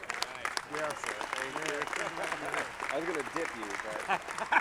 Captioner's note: audience clapping